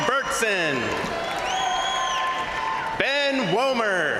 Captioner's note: crowd applauding; crowd cheering